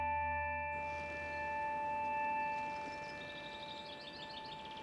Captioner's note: shoes creaking